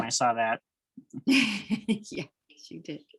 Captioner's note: laughter